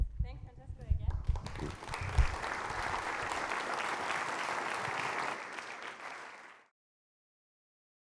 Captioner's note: applause